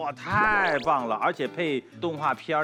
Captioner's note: applause